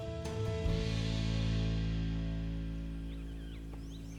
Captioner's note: birds chirping